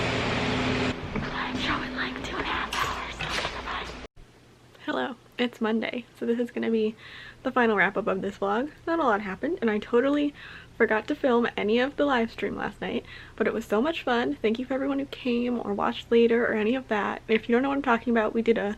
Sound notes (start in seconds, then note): 1.4 whispering